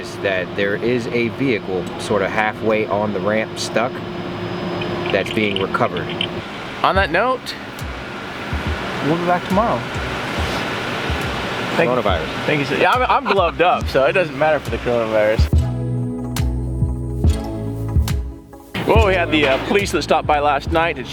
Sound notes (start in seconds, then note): 12.9 laughing; 16.2 upbeat music